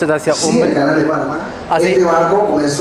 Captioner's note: loudspeaker announcement